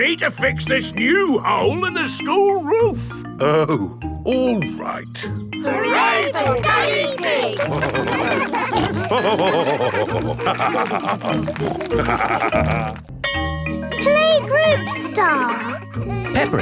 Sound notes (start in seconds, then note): 8.5 all cheering; 9.6 laughing; 11.7 snorting